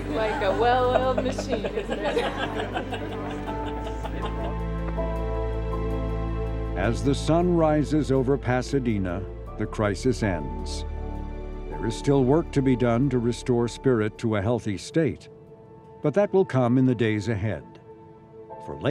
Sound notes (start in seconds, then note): 2.4 crowd laughing; 4.9 soft music